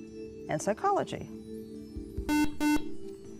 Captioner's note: buzzer